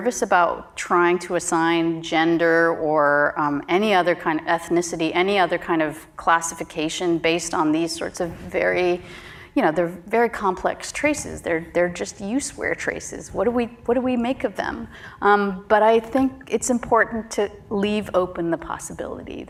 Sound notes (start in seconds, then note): none